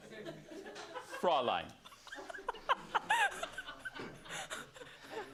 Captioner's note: laughter